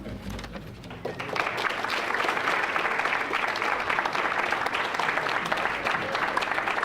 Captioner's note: applause